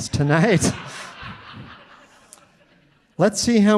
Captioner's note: audience laughing